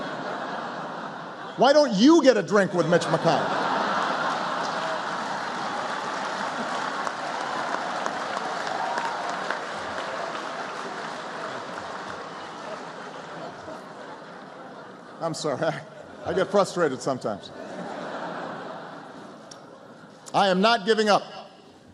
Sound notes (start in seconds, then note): 0.0 laughter; 6.1 laughter and applause